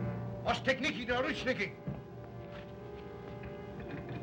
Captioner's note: Zaroff speaks Russian